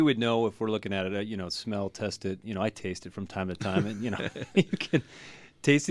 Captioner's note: both laugh